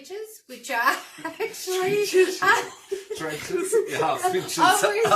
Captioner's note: laughter